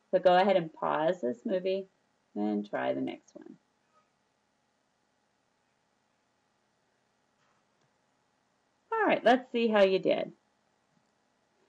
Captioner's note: silence